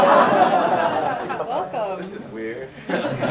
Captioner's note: laughter